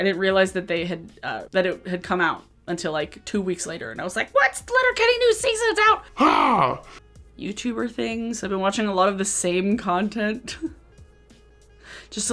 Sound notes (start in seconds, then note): 5.8 speaking in deeper voice effect; 10.4 chuckles